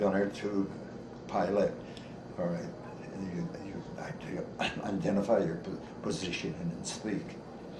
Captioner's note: coughs